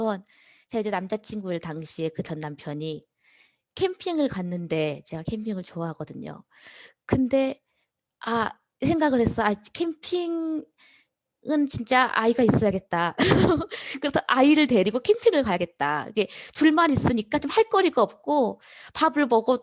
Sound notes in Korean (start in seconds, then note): 13.2 웃음